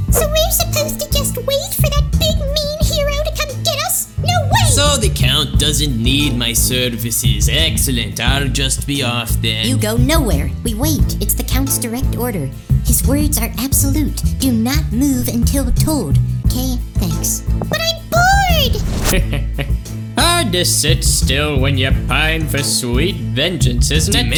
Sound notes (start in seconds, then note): 19.2 dimentio laughs